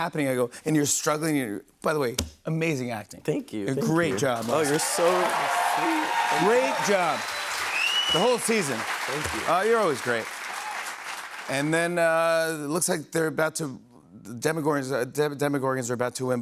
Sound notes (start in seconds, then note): 5.3 cheers and applause